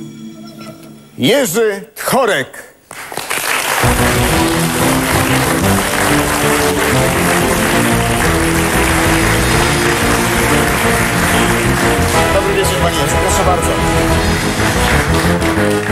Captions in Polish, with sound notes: Jerzy korek [Aplauz] proszę bardzo